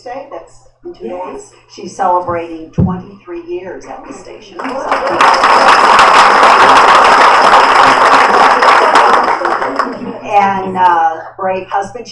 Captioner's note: applause